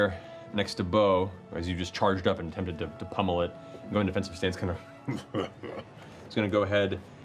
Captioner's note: chuckles